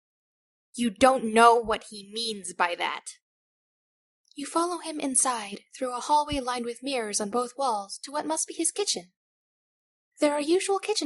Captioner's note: calmly